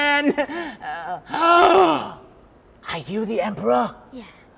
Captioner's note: gasps